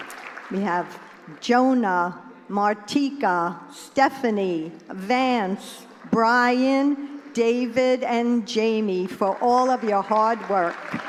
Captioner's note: applause